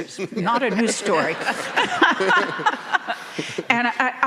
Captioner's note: laughs; audience laughing